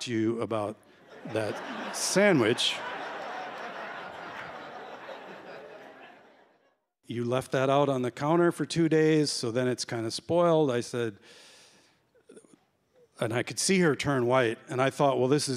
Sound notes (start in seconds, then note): 1.0 laughter